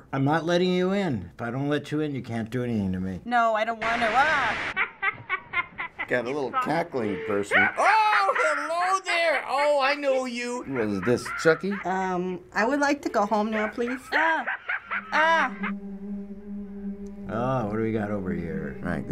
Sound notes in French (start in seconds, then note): 4.7 en jeu: gloussement effrayant